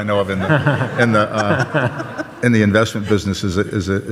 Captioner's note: audience laughs